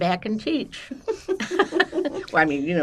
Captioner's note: laughing